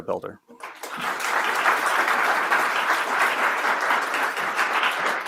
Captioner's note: audience applauding